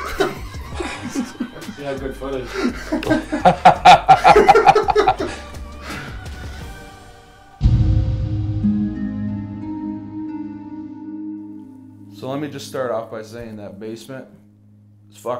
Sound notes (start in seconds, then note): 0.1 group laughing; 2.2 laughing; 7.8 unsettling music